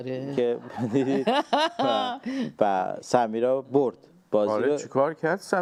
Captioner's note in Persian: خنده